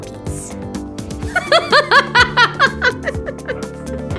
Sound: laughing

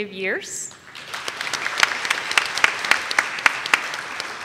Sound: audience claps

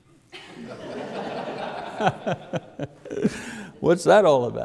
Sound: audience laughs

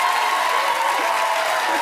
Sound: cheers and applause

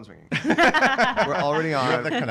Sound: laughing

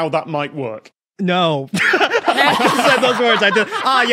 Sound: group laughs uproariously

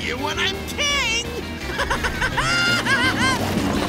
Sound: laughing

